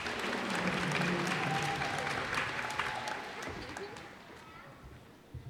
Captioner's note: cheers and applause